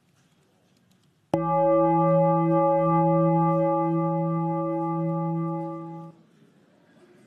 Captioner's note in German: Gong